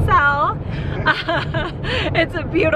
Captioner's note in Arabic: كلاهما يضحك